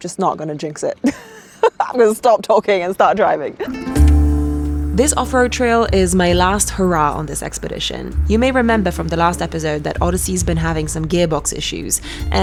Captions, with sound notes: so I'm just not gonna jinx it. (person laughing) I'm gonna stop talking and start driving. (upbeat music) This off-road trail is my last hurrah on this expedition. You may remember from the last episode that Odyssey's been having some gearbox issues,